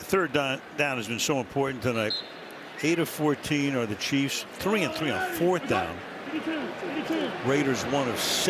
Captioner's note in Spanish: hablan en inglés